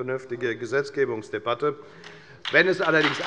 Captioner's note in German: Beifall bei der FDP und der SPD